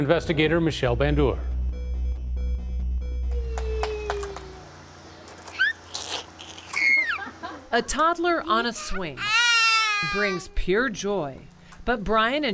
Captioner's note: toddler chortles